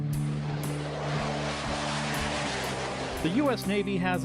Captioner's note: kükreyen uçak motoru